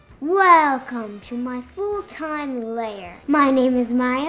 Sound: evil genius voice

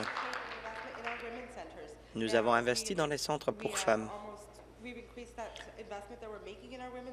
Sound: applause

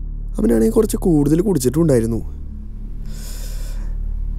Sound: none

